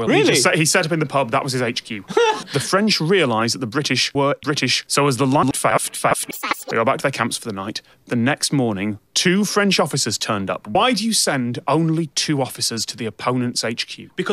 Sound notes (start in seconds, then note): 2.0 kinda laughing; 5.9 getting higher pitch each time he says the word